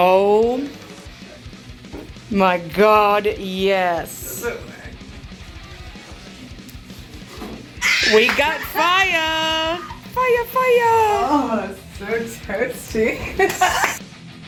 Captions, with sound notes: Oh my god, yes Is it working? - (Loudly shrieks and laughs) - We got fire! Fire, fire! Oh so toasty! (Laughs and claps)